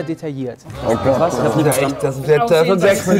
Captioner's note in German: Stimmengewirr